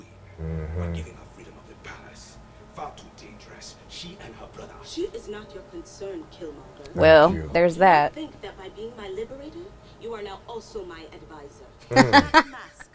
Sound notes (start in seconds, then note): 11.9 both laughing